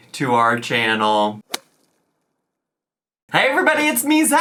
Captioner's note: whip cracks